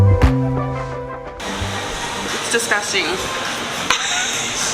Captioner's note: laughs